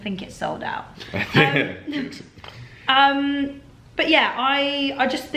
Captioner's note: laughs